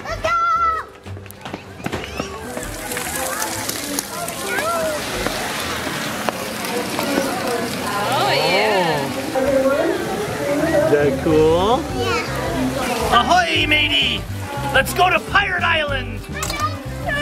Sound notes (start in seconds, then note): 2.5 water splashing